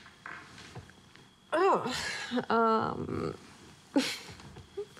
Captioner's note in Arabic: يضحك